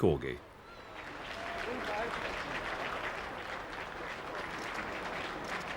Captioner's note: crowd applauding